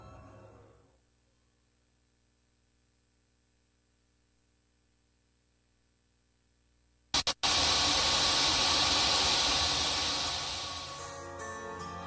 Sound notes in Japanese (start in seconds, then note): 7.1 ノイズ音：ザザザー